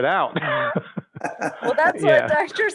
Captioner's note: all laughing